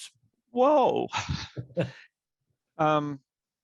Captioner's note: laughs